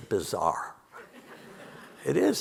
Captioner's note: audience laughing